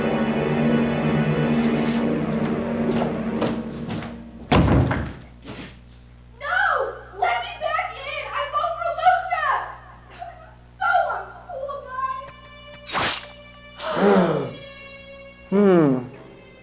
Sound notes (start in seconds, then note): 12.8 blood splatters